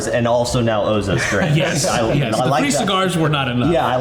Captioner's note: chuckles